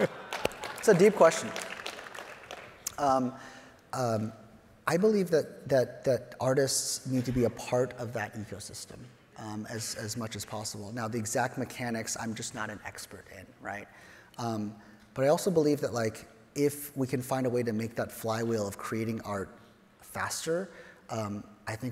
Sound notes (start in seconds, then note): 0.0 claps hands; 1.6 audience applauds